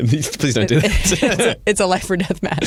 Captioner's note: laughter